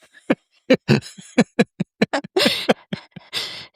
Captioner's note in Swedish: skratt